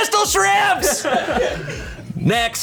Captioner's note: colleagues laughing